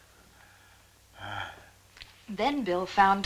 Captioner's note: groaning